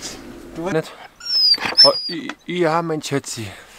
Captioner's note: Caesar is whimpering